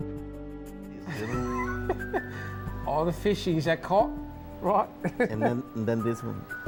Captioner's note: laughs